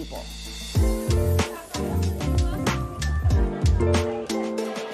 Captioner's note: kids chattering